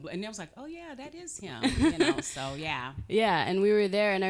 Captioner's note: chuckling